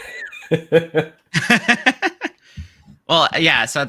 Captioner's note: laughs